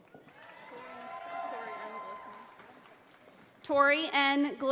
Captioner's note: audience applauding